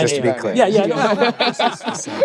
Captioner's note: laughter